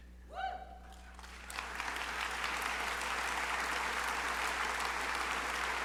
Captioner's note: crowd cheering and applauding